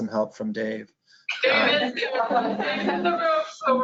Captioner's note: laughter